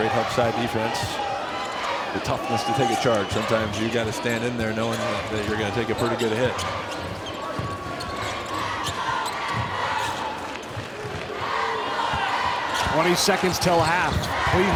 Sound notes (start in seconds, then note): 8.9 audience cheers